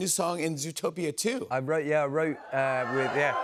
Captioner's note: cheers and applause